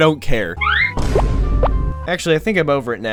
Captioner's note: Vine cinematic boom